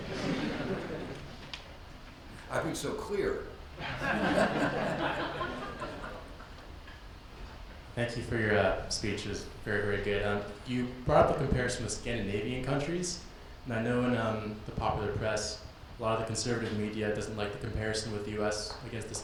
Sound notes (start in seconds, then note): 0.0 audience laughs; 3.8 audience laughs; 3.8 laughs